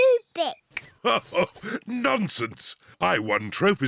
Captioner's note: laughs